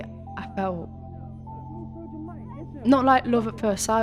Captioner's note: chatter continues between friends